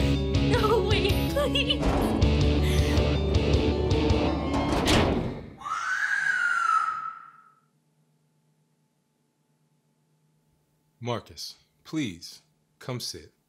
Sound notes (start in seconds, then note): 4.1 metal door closing; 5.6 female screaming